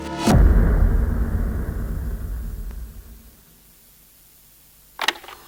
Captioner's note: foreboding music; static hissing; machine whirring